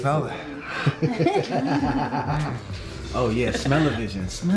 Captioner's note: laughing